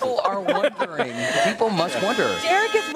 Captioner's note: laughter